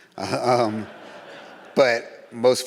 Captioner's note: audience laughs